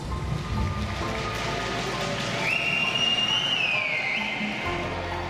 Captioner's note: cheering / chanting